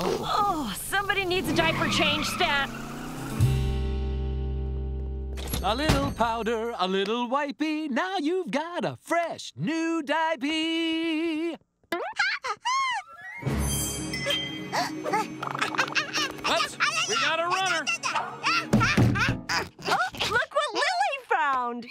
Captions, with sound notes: Whoa! Somebody needs a diaper change, stat. A little powder, a little wiping, now you've got a fresh, new diapee. [gasping] What? We've got a runner! Oh, look what Lily found!